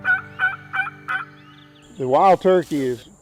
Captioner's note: turkey calls